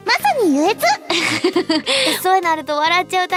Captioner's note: laughs